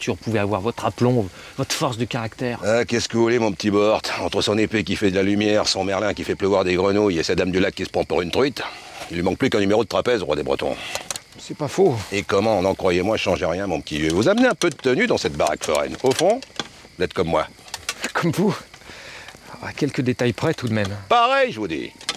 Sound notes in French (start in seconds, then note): 10.7 Craquement de la porte